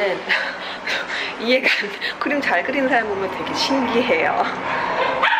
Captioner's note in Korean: ㅋㅋ